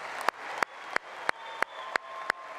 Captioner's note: applause